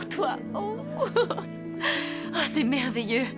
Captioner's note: laughter